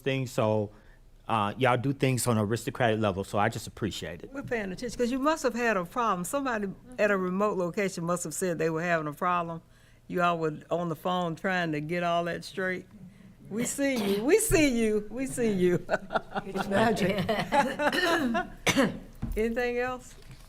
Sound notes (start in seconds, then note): 15.6 laughing; 18.5 coughs